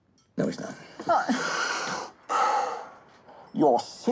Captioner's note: heavy breathing